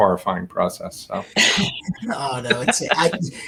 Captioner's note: all laughing